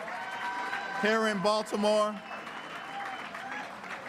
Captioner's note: applause